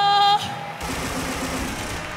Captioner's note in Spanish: Aplausos